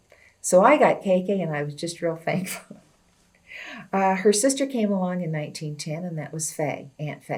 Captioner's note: laughs